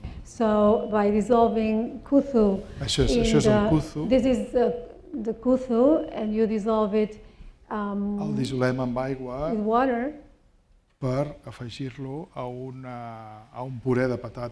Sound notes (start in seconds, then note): 2.4 non-english; 5.5 non-english; 11.4 speaking spanish